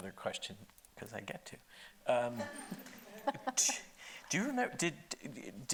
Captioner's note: laughing